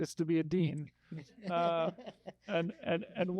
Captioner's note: audience laughing